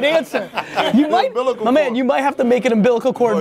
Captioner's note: laughing